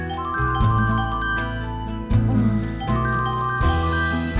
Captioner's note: cell phone ringing